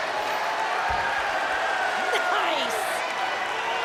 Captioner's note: crowd cheering